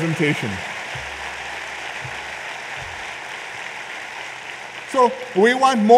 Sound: applause

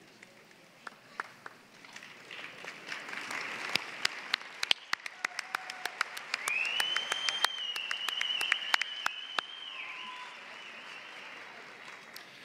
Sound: applause

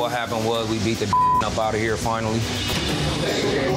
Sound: beep

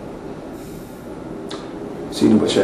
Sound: sighs

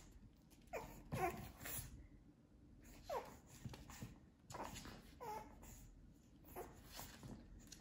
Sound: Bowser Whining and Squeaking

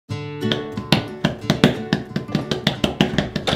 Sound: knock knock

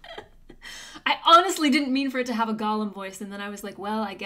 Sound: laughs

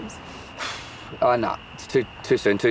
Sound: Brayden exhales

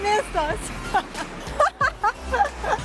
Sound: laughs

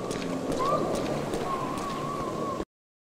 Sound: whistling fades

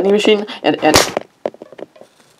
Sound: smack

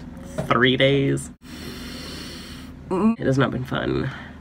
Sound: sharp inhale

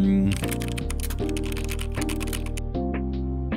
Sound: typing

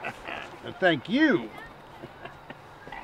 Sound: laughing

